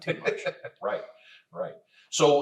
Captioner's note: laughs